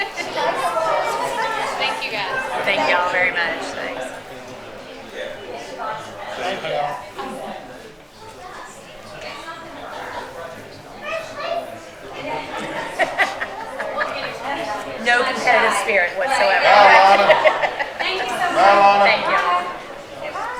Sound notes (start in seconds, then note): 0.2 attendees chatter; 8.5 attendees chatter; 12.1 attendees laugh; 16.6 laughs